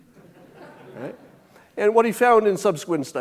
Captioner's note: audience chuckling